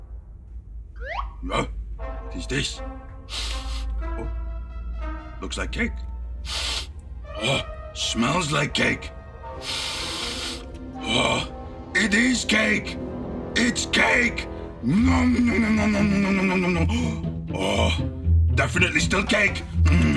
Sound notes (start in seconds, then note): 3.3 sniffing; 6.4 sniffing; 9.6 sniffing